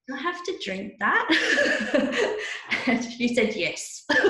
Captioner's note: laughs